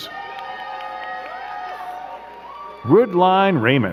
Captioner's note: crowd cheering and clapping